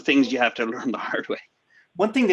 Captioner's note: giggles